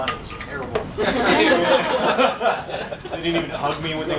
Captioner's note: laughter